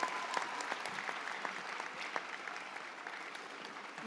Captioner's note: audience applauds